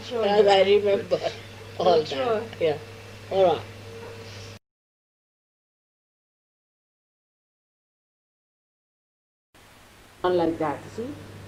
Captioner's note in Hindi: हंसते हुए माँ ऐसा कहती है